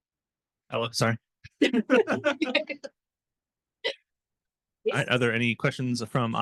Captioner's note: laughter